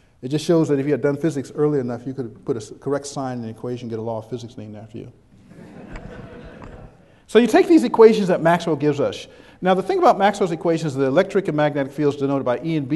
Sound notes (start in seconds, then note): 5.4 background chuckles